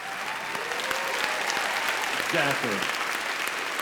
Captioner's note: audience cheers